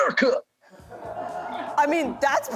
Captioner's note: laughter